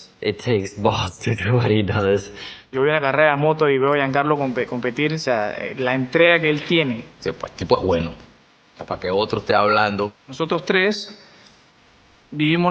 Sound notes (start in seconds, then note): 3.2 speaking Spanish; 9.1 speaking Spanish